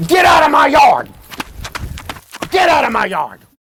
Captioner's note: footsteps thudding